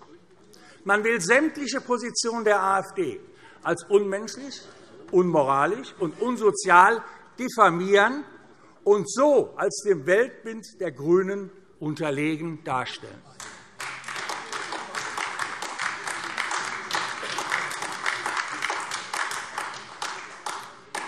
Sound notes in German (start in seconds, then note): 13.3 Beifall AfD